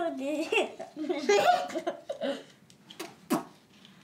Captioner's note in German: Sie lachen